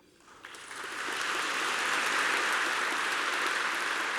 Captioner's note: applause